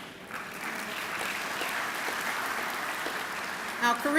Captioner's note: clapping